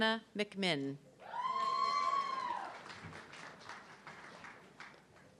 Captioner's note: audience cheering